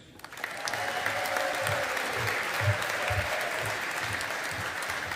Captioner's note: audience applauding